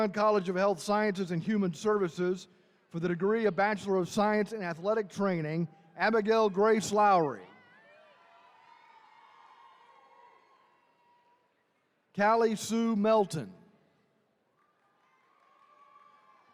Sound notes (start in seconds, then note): 7.6 attendees cheering